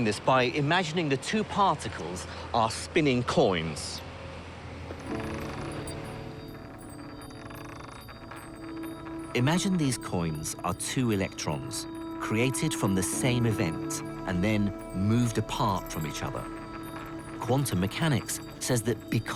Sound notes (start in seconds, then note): 6.5 coins clatter